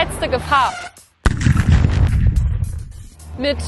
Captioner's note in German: Knall